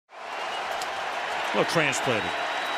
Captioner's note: cheering